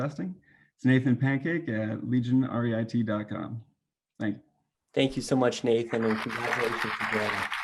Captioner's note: clapping